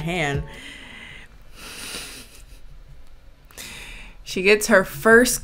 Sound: exhales sharply

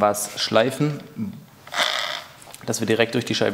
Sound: chattering

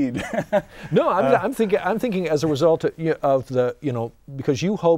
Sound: laughing

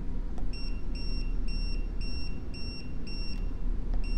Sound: meter beeping

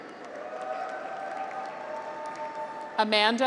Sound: graduates cheer

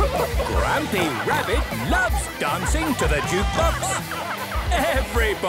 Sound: shouting

